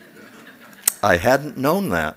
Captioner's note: laughs